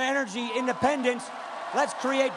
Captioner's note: cheering and applause